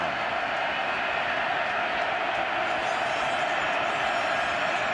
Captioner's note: crowd cheering